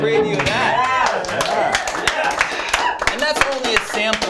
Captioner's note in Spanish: aplausos